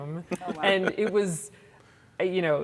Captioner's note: laughing